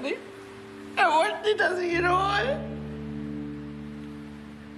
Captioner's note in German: schluchzt